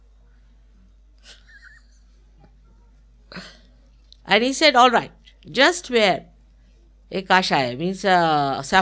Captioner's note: Shri Mataji laughing